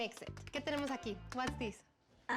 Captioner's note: speaking spanish